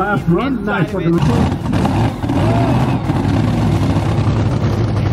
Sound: engine revs loudly

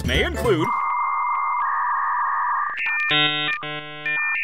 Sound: dial up tone

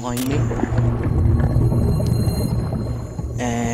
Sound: bubbles gurgle

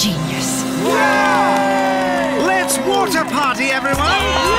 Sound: cheering

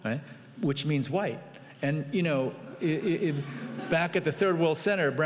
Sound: laughing

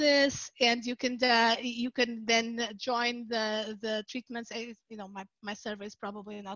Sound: faintly speaking

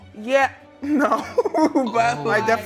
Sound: laughs

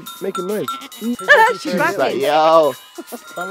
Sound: laughs

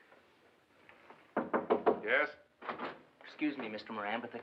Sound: Knocking

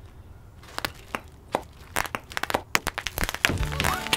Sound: bubble wrap popping sounds

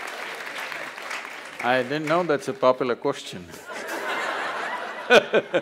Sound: laughs

